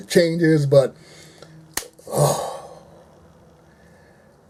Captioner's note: sighs in relief